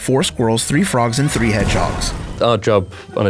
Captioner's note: explosion booming